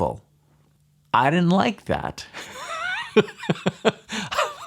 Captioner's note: laughs